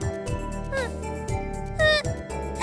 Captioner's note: breaking into tears